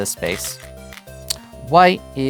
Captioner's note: stones rattling